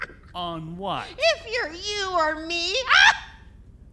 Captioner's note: laughs